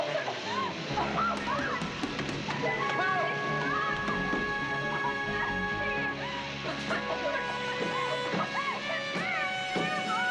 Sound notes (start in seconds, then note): 4.9 coughing